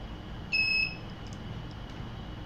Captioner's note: beeps